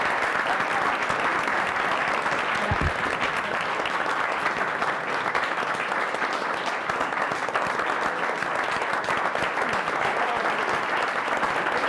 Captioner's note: applause